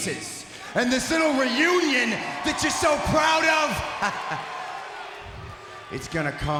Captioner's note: chuckles